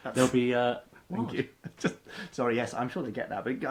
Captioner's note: laughs